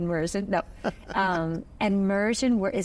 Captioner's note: chuckles